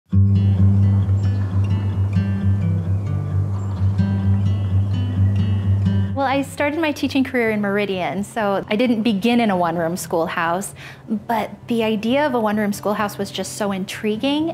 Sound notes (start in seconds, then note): 0.4 birdsong; 0.5 light music